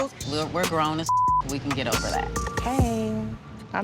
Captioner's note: beep